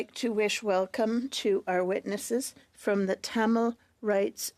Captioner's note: speaking French